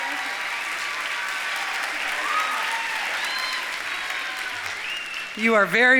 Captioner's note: audience cheering